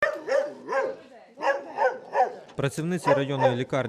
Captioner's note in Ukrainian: Гавкіт собак